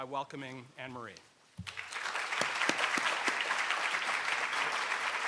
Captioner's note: audience applause